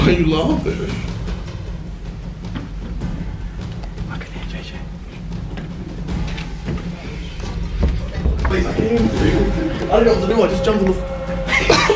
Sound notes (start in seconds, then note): 4.7 whispering